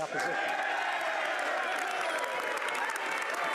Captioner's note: speaking French